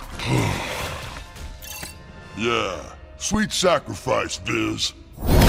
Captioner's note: sighs